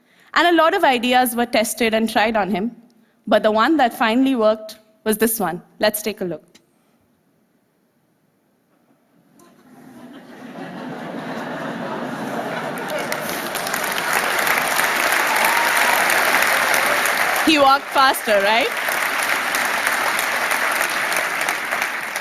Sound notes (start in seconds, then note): 9.4 laughter; 12.1 applause